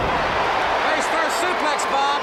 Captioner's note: audience cheers